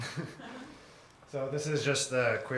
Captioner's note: laugh